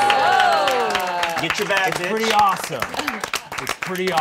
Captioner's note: all applauding